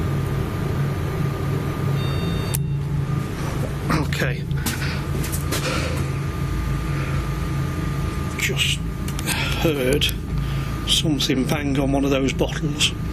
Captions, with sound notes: (beeping) Okay. (rattling) Just heard something banged on one of those bottles.